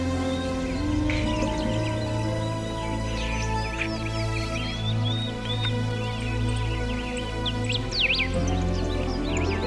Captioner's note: intro music; birds chirping; soothing music